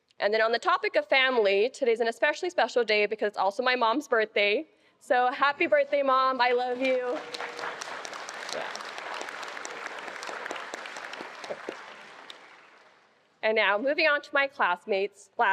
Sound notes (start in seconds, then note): 6.4 attendees applauding